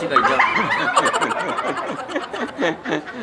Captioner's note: laughing